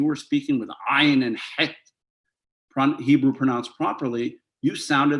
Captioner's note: hebrew